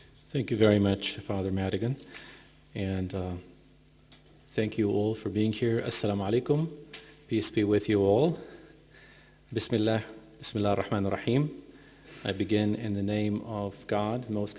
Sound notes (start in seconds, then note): 6.0 speaking in a foreign language; 9.7 speaking in a foreign langague